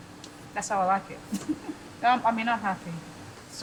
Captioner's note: laughing